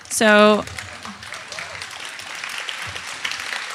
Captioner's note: audience applauding